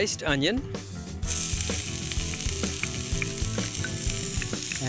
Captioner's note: sizzling